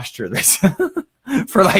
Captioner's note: laughs